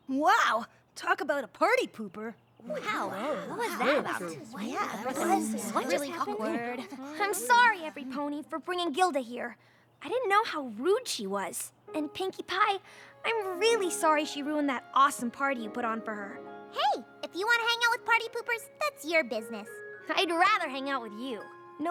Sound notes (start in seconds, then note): 2.6 all murmuring